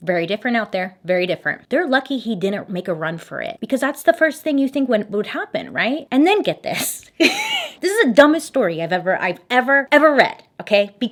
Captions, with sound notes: Very different out there, very different. They're lucky he didn't make a run for it because that's the first thing you think would happen, right? And then get this. (laughs) This is the dumbest story I've ever, ever read, okay?